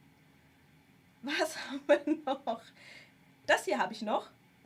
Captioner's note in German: gelächter